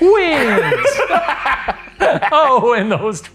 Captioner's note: both laughing